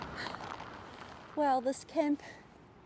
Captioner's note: sound of heavy rain